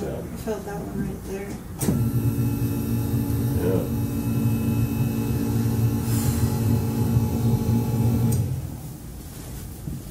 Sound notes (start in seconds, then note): 1.9 sound of motor as table go down